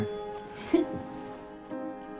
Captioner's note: April giggles; soft melodic music